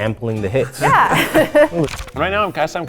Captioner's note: laughs